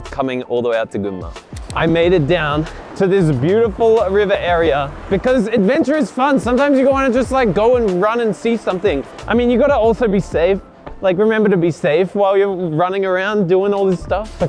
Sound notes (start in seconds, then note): 2.4 water gushing